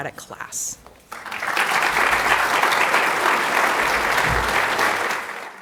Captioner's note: applause